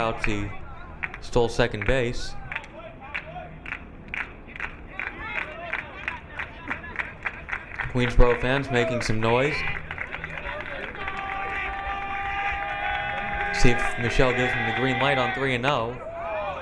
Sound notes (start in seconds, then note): 3.0 crowd clapping